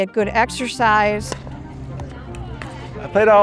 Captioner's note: pickleball bouncing